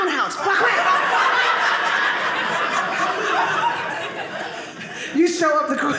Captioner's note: audience laughing